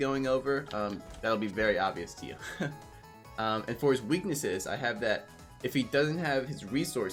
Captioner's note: chuckle